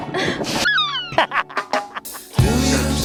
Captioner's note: laughing